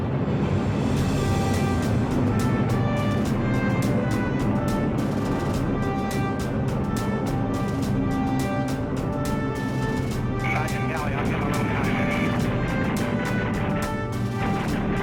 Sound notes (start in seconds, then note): 9.2 radio chatter; 10.4 guns firing